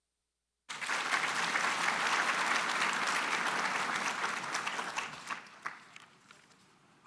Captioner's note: applause